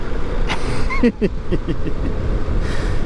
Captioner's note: laughs